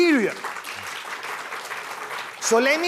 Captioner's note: applause